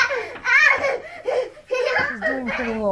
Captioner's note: laughs